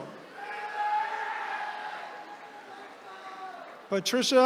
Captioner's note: attendees cheering